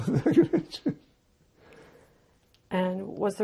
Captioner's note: laughing